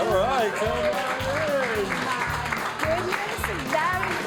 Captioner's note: all applaud